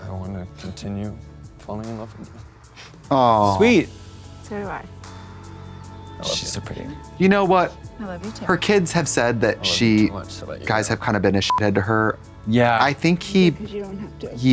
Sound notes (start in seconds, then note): 11.4 beep